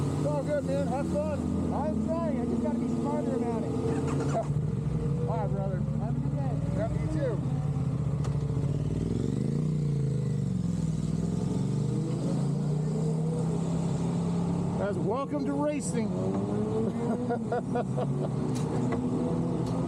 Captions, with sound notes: It's all good, man, have fun. I'm sorry, I just gotta be smarter about it. (laughing) I'd rather. Have a good day. Me, too. That's welcome to racing. (laughing)